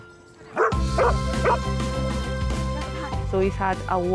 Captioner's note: joyful music; Kylo barking